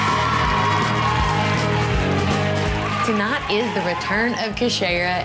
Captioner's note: crowd cheering